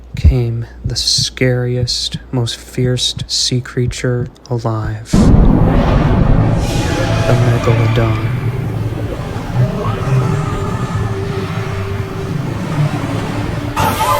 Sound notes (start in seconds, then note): 6.1 water rumbling; 9.1 creature rumbling; 9.1 water splashing